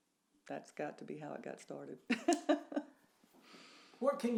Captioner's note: laughs